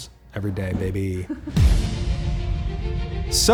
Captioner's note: laughs; dramatic string music